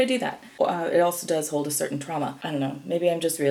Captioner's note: stutters